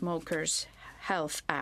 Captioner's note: speaking in French